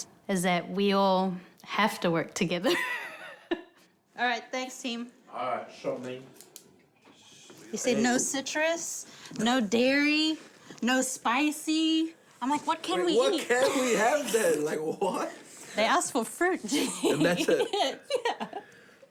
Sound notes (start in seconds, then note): 2.9 laughs; 14.6 laughing; 16.7 chuckling